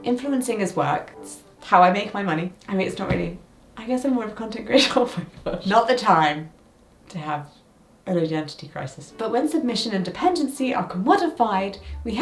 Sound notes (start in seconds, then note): 4.7 laughs